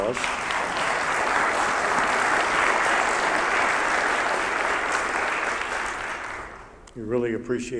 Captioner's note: applause